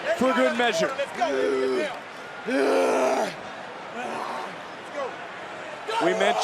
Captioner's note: grunting